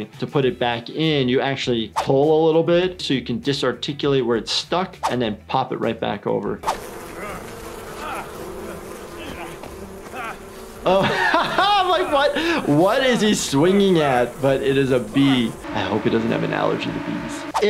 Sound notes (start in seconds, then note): 7.5 nonsensical shouting; 11.2 laughs; 15.6 buzzing